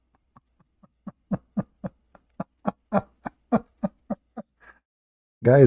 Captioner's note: Ketawa